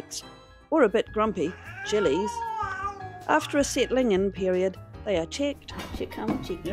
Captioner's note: circus music; catgrowl